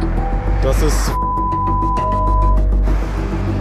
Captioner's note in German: Piepsen